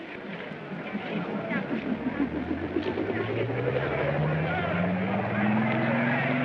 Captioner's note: engine powers up; aircraft hums; crowd clamors